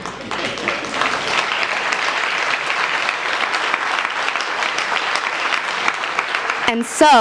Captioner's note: laugh; applause